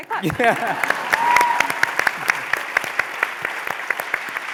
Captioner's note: applause